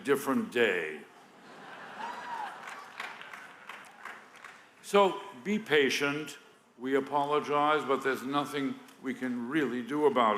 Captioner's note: laughter